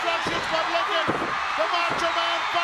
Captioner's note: audience cheers